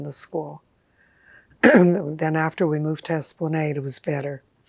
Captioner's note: clears throat